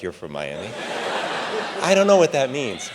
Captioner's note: audience laughs